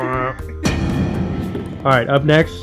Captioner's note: echoing slam